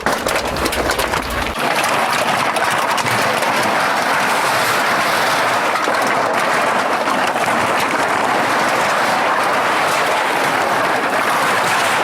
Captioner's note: the sound of cans being loaded into the machine